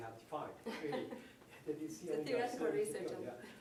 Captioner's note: laughing